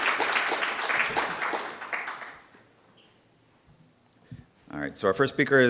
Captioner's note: applause